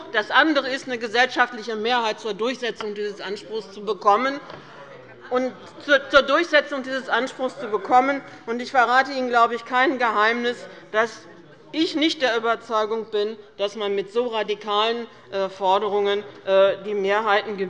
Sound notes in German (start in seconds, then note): none